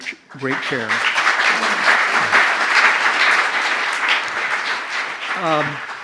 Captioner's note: applause